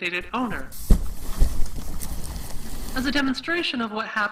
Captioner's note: rustling, thumping